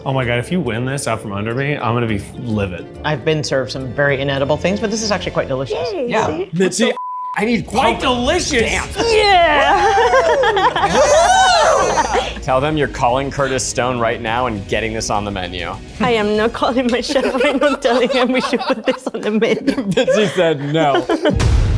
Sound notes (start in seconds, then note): 9.0 laughs